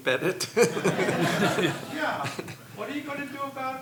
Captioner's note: laughing